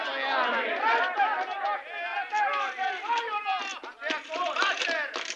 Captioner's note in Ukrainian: голоси на вулиці